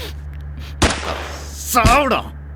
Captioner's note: gunshot